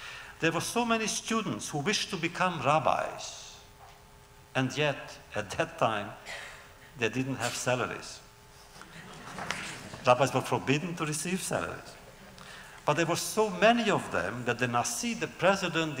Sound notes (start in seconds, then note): 8.8 laughter